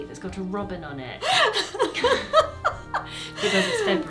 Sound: laughs

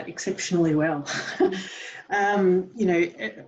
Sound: laughs

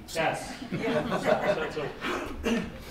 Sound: all laughing

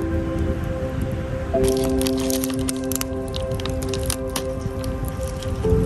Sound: sound of crackling fire; sound of rustling bag

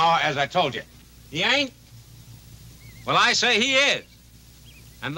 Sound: none

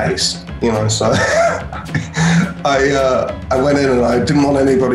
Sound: laughs

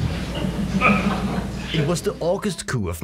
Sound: laughter

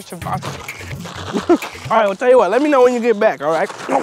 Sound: chuckles

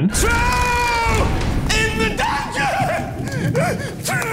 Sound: Quirrell hysterical

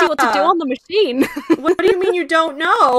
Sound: laughs

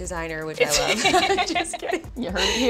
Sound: laughing

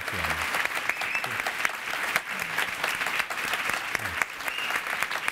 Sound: audience applauding

